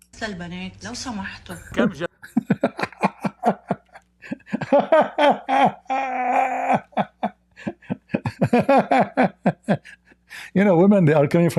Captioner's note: Ketawa